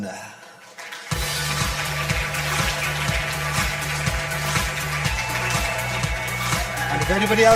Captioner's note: audience applause; upbeat music